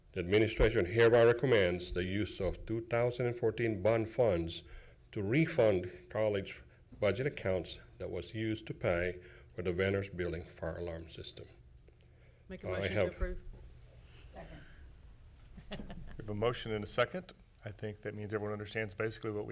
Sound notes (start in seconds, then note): 15.6 chuckling